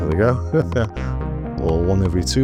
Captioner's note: laughs